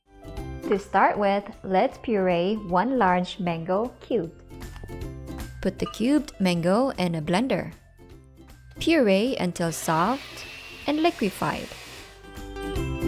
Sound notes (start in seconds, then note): 7.9 bowl thuds; 9.6 blender grinding